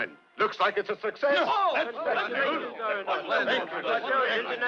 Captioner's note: all chattering